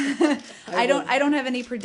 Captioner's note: laughter